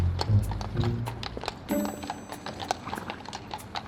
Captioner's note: hooves clomping